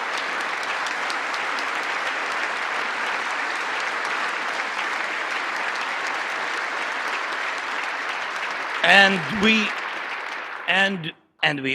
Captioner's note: cheering and Applause